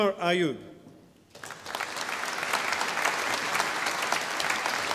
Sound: audience applauding

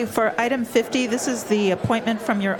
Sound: crowd Noise

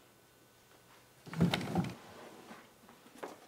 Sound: carefully opening drawers

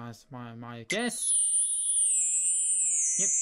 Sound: pairs complete sound

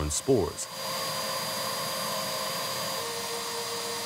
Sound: vacuum cleaner whirring continues; vacuum cleaner whirring

